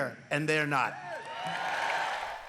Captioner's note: cheering and applause